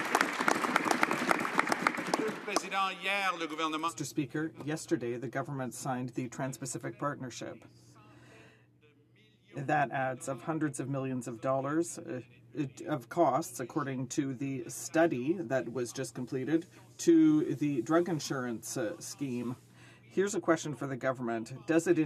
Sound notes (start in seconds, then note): 3.7 some Applause